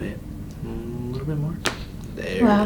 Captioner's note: bone cracks